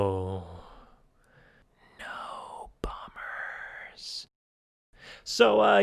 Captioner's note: whispering